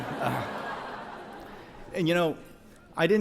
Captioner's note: audience laughs